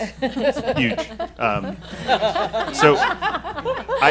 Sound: laughing

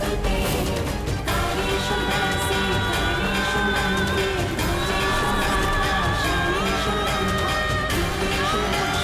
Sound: chants

